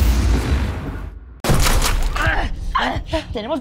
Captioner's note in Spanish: Disparos